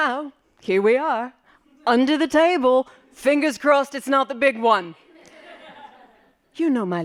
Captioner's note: laughing